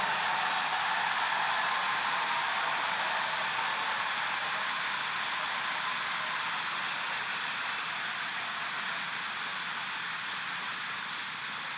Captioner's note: applause